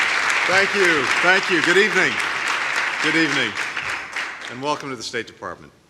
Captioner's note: applause